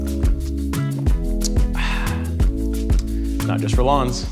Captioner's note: refreshing sigh